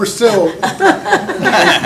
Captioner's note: laughter